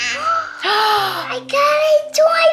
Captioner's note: vocalizes; Cairo gasps; gasps